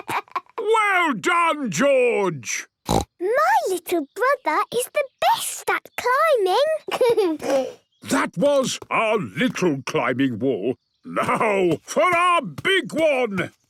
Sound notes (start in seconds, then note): 2.8 snorts; 6.8 giggles